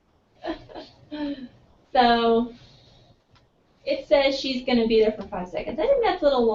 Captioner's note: laugh